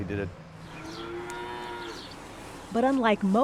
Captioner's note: cow moos